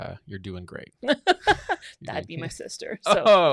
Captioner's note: laughs